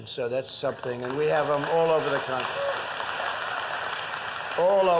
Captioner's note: applause